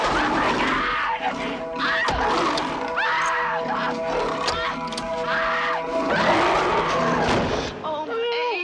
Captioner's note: screaming